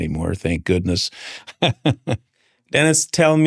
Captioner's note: laughs